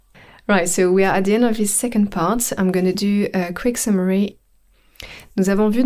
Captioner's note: english - normal pace French